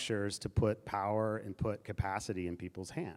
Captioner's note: none